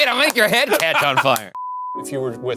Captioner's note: clapping; screen beeping